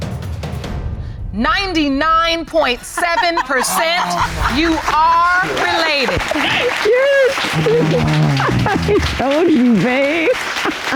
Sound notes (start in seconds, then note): 2.7 laughing; 7.3 groans